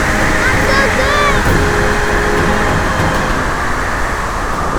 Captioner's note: shouts